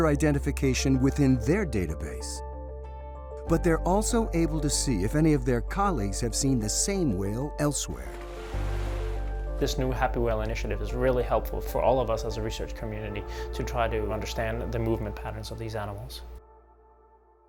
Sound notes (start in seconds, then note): 7.9 water splashing